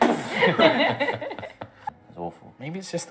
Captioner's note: door slamming sounds; laughter